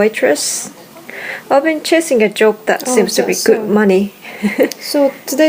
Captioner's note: laughs